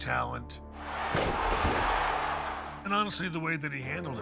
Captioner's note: crowd roaring